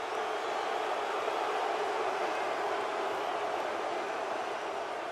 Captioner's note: booing